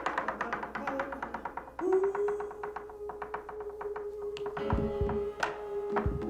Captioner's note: rhythmic tapping; light jazz music